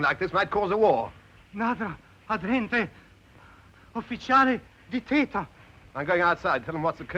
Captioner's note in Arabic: الخادم يتحدث لغة أجنبية